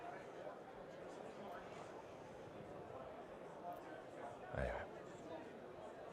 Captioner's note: crowd indistinctly speaking